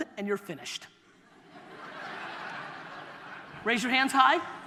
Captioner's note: audience laughter